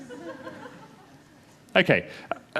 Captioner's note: laughter